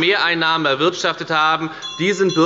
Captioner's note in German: Unruhe – Glockenzeichen der Präsidentin